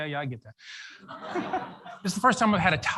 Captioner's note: audience laughs